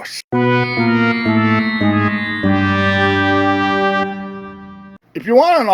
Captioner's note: fail sound effect